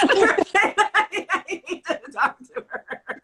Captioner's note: laughter